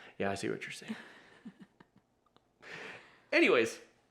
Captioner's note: chuckles